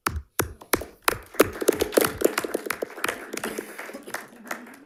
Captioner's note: members applauding